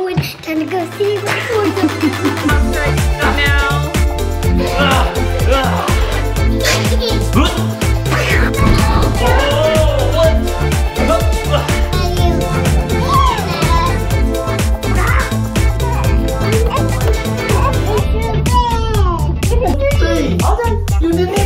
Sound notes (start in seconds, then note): 2.5 upbeat music; 16.3 child's voice